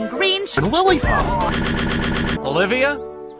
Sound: rapid head turns that sound like how a head turning shouldn't

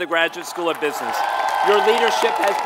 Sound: applause

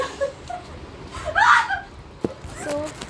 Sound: dies of laughter

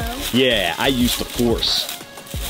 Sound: smug

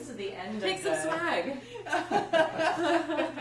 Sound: group laughs

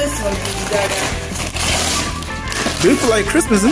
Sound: paper tearing

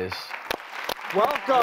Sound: applause

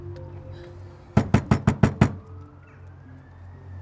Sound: loud knocking

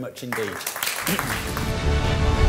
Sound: applause

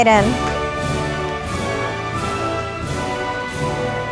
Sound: audience applauding

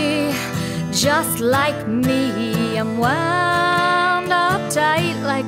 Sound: none

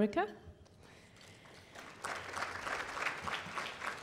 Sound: applause

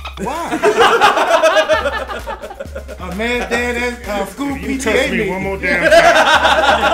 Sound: laugh

